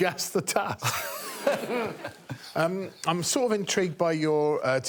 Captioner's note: audience tittering